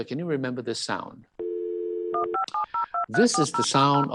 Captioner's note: dial-up sound